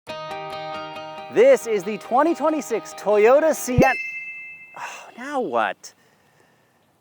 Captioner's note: upbeat music; notification sound